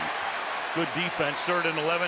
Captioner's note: cheering